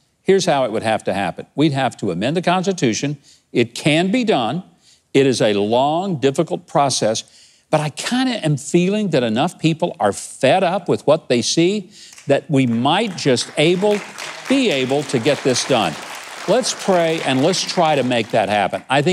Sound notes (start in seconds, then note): 15.8 audience applauding